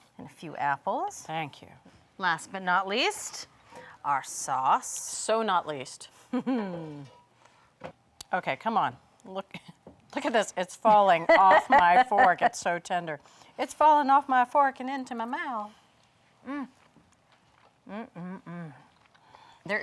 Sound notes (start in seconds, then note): 6.4 chuckles; 11.0 laughs